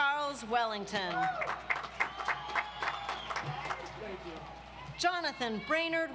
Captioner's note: audience applauds